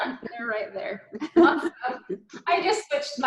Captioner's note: laughing